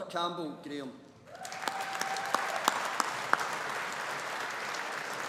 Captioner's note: audience applauding